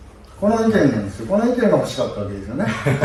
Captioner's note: laughs